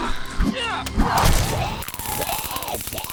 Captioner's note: zombie vivien growling; zombie vivien groaning; flesh squishing; taser zapping; zombie vivien groaning